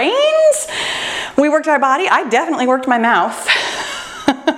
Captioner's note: laughs